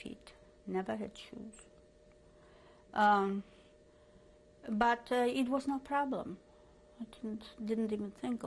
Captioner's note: pauses for 3 seconds